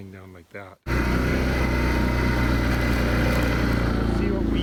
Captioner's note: engine roaring